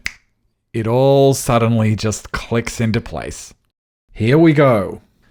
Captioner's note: finger snap